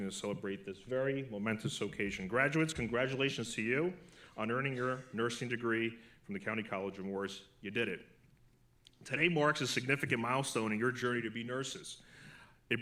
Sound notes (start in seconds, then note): none